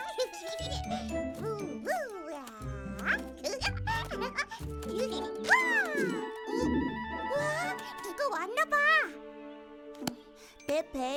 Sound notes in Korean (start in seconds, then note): 0.1 웃음소리; 5.7 꼬르륵 소리